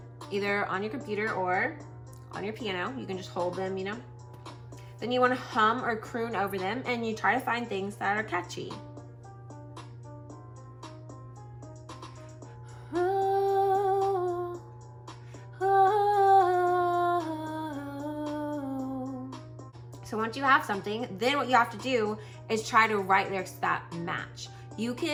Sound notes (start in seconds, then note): 8.6 humming